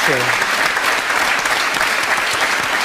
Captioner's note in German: Applaus